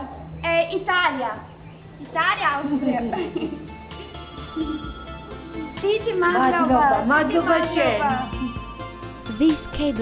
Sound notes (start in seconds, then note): 7.4 in Georgian